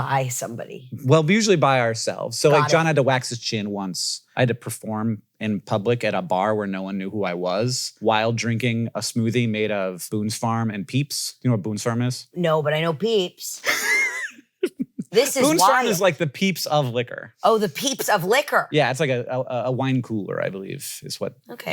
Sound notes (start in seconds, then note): 13.7 giggles